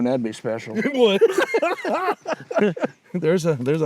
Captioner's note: laughing